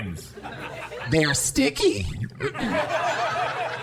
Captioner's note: more audience laughter; audience laughter